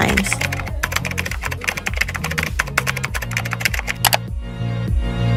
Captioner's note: keyboard Clicking & Typing